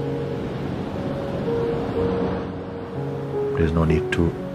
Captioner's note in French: bruit de vagues sur fond musical